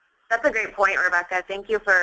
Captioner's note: voiceover